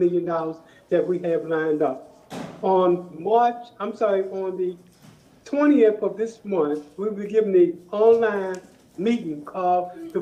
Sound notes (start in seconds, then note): none